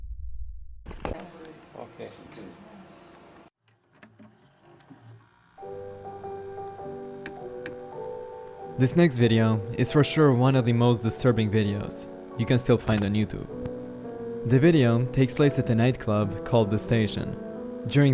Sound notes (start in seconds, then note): 5.8 gentle melancholy music; 5.8 recorder rattling